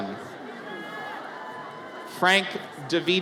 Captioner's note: audience cheers